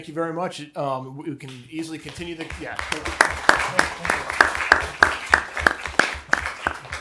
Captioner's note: applause